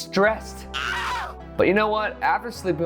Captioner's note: man screaming